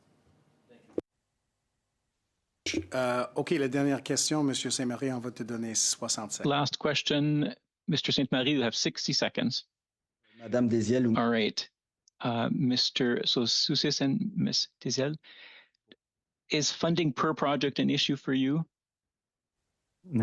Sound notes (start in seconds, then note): 8.2 speaking French